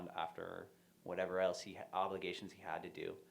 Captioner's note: none